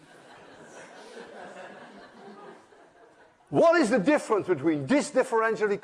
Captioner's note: laughter